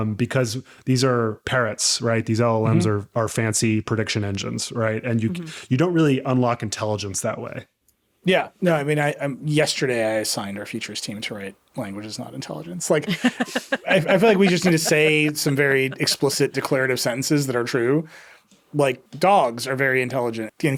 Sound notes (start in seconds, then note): 13.0 laughing